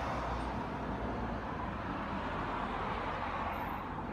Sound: cars passing

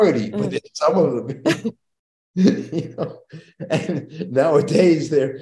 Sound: chuckles

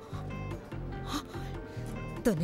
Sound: gasping

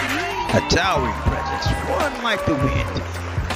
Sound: crowd cheering and applauding

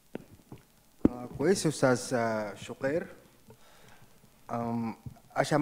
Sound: speaks in foreign language

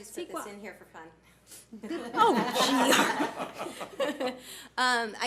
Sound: board laughs

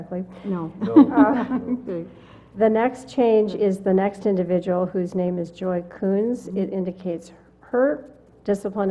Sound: laugh

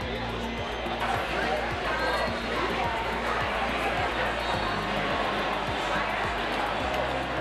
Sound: loud collective chatter

